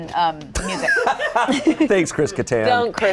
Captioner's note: group laughs